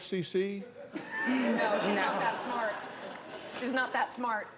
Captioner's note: laughter